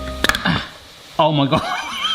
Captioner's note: can clanks; laughs loudly